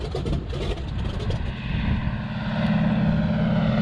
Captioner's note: plane rattling, engine sounds